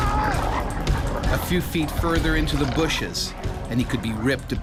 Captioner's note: voiceover